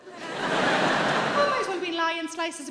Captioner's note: audience laughing